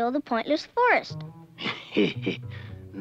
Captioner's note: laughing